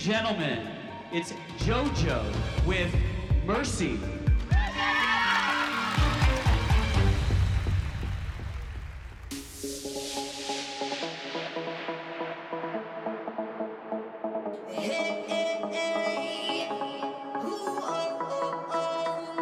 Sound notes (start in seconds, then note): 4.5 cheering; 9.3 upbeat dance music plays